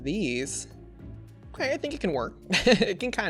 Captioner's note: laughs